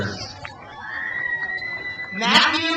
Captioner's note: crowd cheers